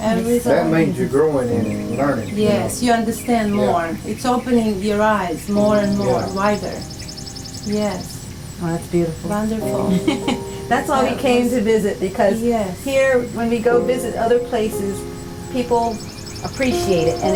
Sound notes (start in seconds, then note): 9.7 chuckles